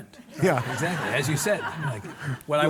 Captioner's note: audience laughing